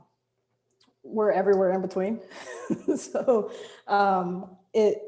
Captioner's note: chuckles